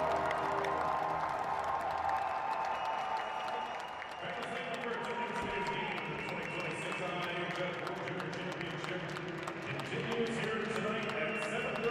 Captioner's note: cheering and Applause